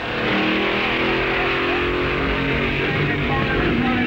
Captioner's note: hot rods revving